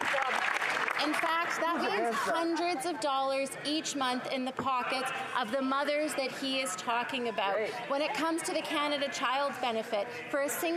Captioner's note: applause